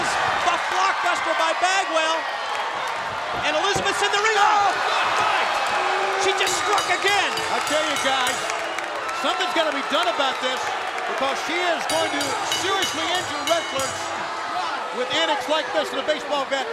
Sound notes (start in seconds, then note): 7.1 crowd cheering; 8.6 bell ringing